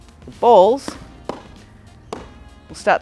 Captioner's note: balls hit floor